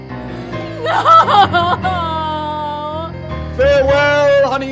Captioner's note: cries